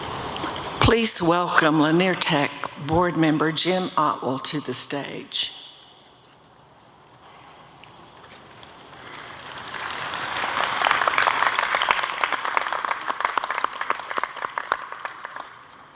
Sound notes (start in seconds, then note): 9.0 applause